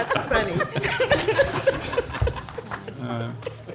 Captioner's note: laughter